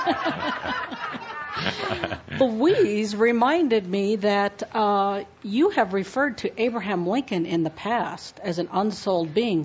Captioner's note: laughter